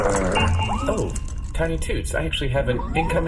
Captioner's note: electronic ding